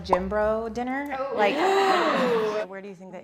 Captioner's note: gasping